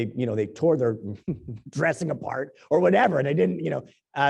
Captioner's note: laugh